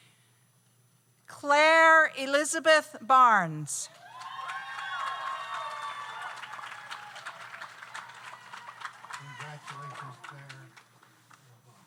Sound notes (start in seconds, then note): 3.9 audience cheers; 4.0 audience applauds